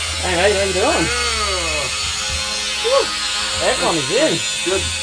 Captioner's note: man groans